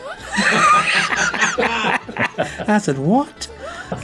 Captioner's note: laughing